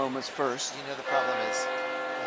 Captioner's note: bell tolling